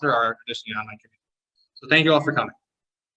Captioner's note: audio distortion